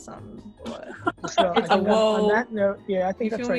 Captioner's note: laughs